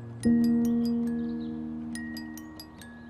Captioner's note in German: Vogelgezwitscher